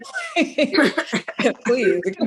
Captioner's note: laughs